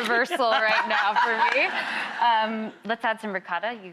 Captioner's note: laughing